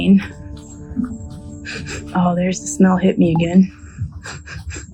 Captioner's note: sniff sniff